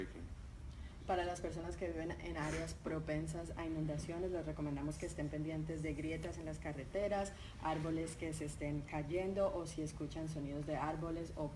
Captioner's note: speaking in Spanish